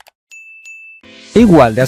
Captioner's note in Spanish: campana